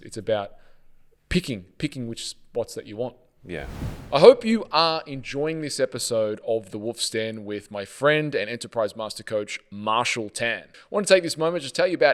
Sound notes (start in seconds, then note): 3.4 air whooshing sound